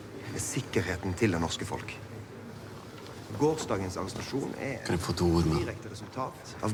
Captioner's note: chatter continues